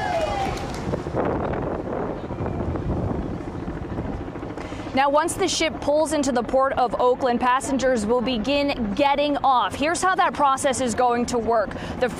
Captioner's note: cheering